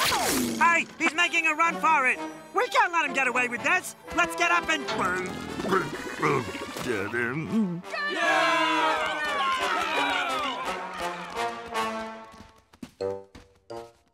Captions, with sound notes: Hey, he's making a run for it! We can't let him get away with this. Let's get up and... [gagging] get him. [clamoring]